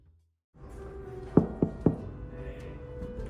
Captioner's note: knock knock knock